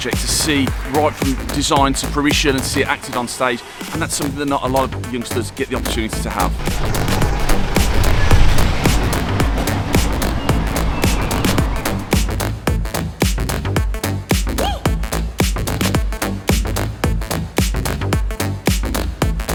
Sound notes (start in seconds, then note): 7.1 van engine running; 11.9 upbeat electronic music